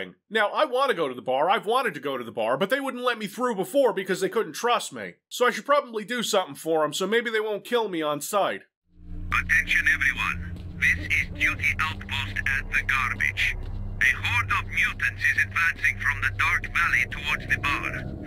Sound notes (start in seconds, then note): 9.1 DUTY OFFICER on radio